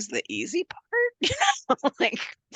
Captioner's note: laughs